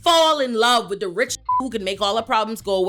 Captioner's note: beep